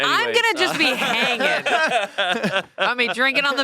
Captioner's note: they laugh